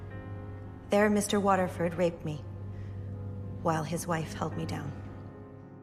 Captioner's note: voiceover